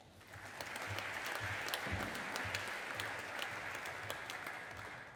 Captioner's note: audience applauding